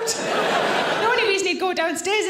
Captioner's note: audience laughing